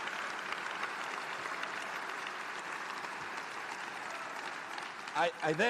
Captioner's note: applause